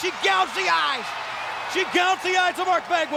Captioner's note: audience cheers